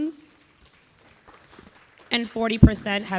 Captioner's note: audience applauding